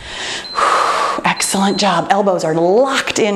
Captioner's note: timer beeps